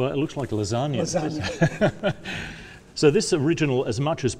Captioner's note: laugh